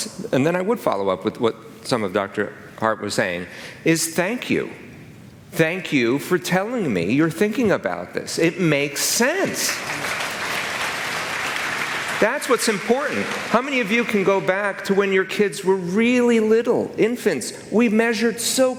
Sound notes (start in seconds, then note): 12.5 applause